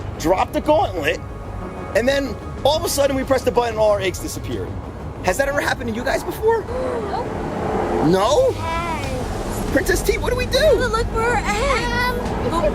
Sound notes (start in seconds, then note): 6.6 gasps